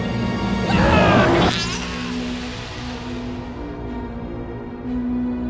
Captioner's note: dramatic orchestral music; Jed screaming